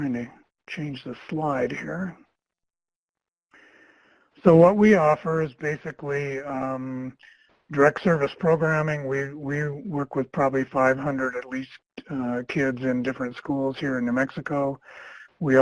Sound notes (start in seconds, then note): none